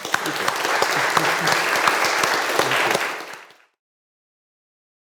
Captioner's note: audience applauding